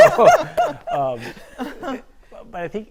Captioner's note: panelists laughing